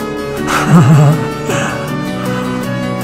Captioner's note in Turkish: gülme sesleri